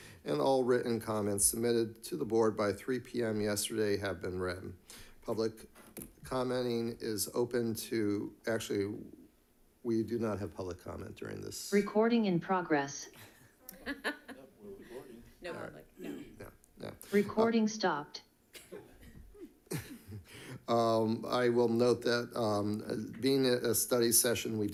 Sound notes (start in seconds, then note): 13.6 group chattering; 13.6 group laughing